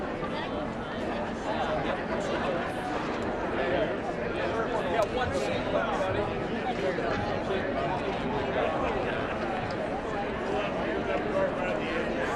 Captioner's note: indistinct chatter